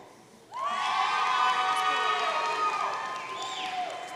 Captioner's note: audience cheering